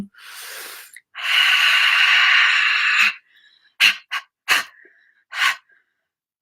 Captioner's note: pants and breathes harshly